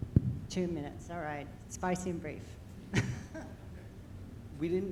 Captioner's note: chuckles